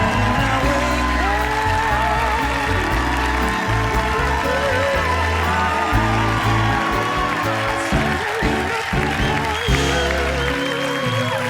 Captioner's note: applause